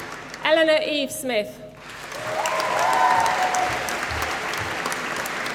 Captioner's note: applause